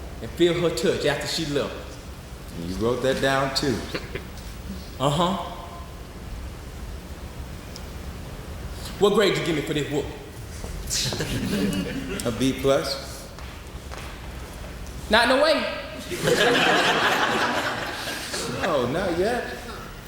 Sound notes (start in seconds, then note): 16.0 audience laughing